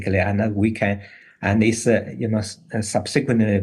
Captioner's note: none